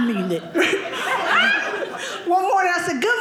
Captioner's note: audience laughing